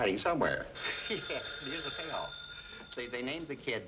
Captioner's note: phone rings